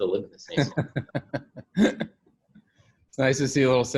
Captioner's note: laughing